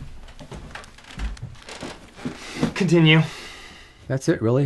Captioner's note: none